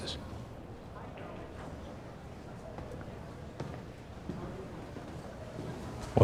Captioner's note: senators chattering indistinctly